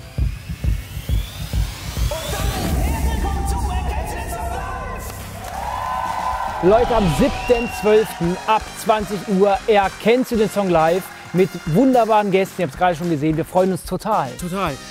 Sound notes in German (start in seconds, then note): 1.7 Ansteigende Klänge; 5.5 Jubel